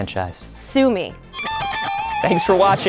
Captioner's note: air guitar sound